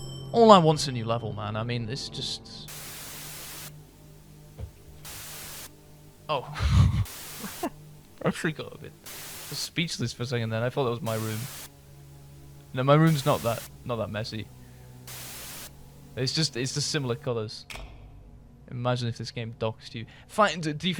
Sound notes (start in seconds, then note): 6.3 static; 6.5 laughter